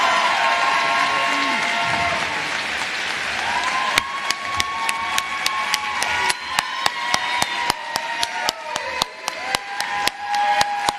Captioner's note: cheers and applause